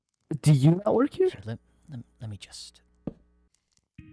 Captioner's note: whisper